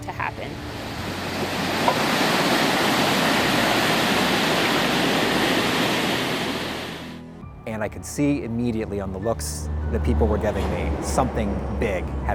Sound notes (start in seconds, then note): 0.0 sound of rushing water